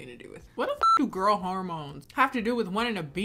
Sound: beep

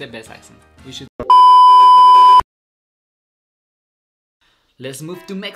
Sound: electronic beep

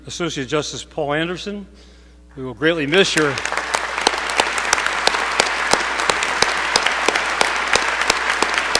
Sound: applause

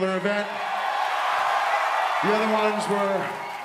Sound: audience applauds

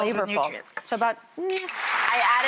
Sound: audience clapping

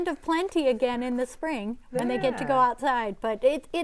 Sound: laughing

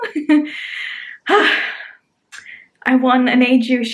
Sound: sighing

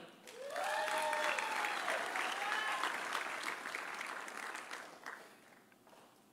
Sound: audience applauding; audience cheering

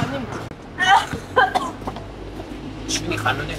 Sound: cough sound

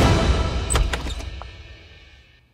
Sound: door opens

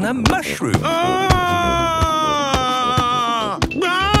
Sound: shouting

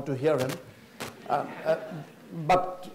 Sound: audience laughs

